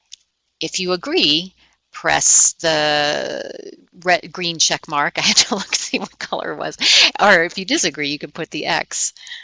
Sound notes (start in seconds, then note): 6.8 laughing